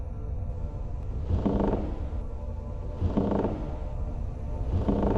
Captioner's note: floor creaks